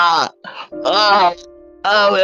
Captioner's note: inhale